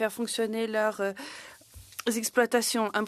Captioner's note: speaking in French